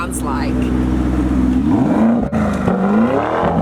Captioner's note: revs it up!